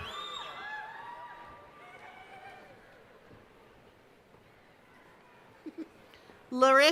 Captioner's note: cheering